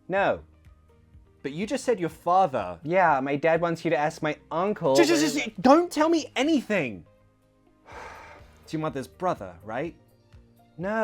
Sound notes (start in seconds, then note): 8.0 sighs